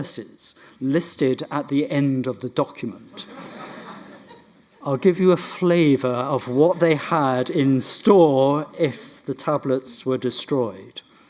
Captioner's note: audience laughs